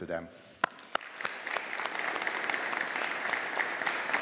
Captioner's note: audience applauding